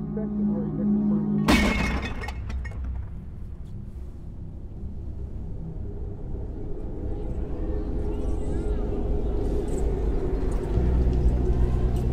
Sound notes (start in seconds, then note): 0.0 foreboding music; 1.5 glass clattering; 7.4 distant, muffled children clamoring